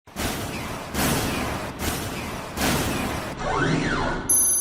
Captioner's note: robotic rumbling sound